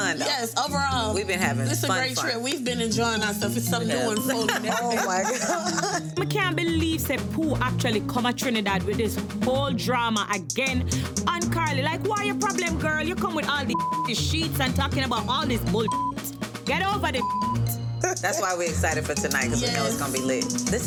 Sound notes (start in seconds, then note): 4.1 woman laughing; 13.7 beep; 15.8 beep